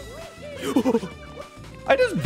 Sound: audible gasp

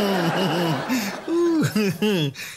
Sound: chuckles

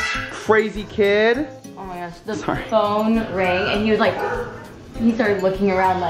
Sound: gasps

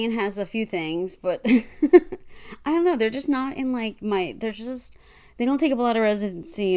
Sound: laughs

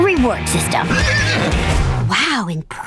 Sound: neighing

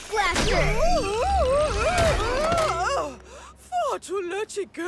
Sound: grunts

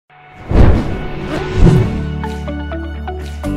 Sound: fire whooshing; bright music

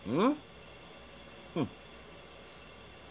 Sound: scoffs

